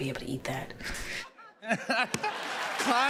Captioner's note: laughs; applause